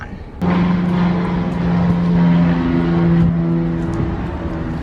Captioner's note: airplane flies overhead